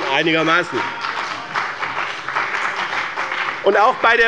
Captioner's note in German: Beifall bei dem BÜNDNIS 90/DIE GRÜNEN und der CDU